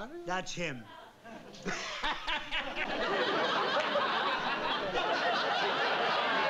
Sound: laughs

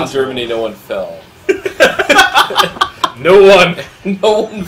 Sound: laugh

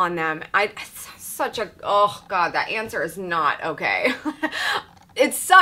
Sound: chuckles

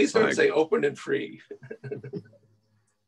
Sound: laughter

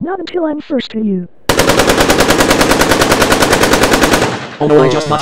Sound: shooting sounds

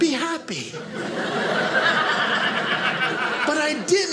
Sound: audience laughing

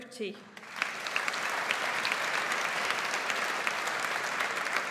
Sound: audience applauds

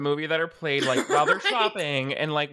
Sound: laughs

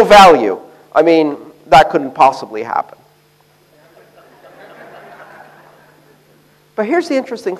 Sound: laughter

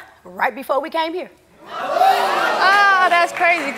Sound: audience oohing

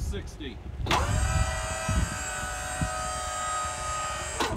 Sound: machine whirring

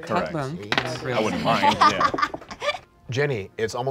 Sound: laughing

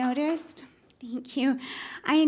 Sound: applause

